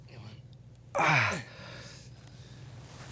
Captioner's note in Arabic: يشتكي